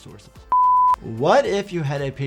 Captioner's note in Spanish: pitido en pantalla